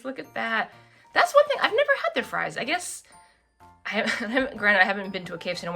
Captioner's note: laughs